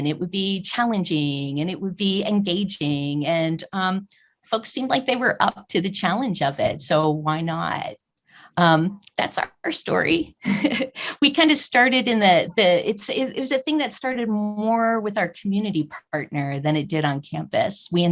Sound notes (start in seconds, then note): 10.4 chuckles